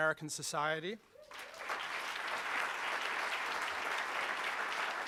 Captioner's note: applauding